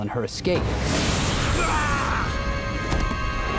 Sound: screaming

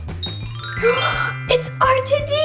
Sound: upbeat music; twinkling; gasps

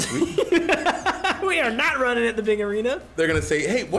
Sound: laugh

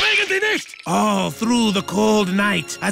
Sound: dad speaking foreign language

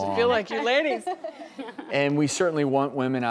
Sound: women laughing

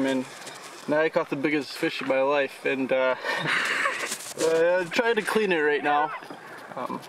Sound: laughter

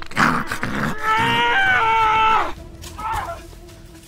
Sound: screaming

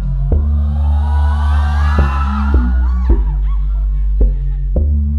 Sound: fangirls fangirling: OHHHHHH

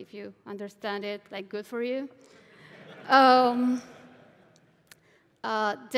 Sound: laughter

